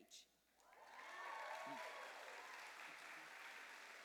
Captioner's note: cheers and applause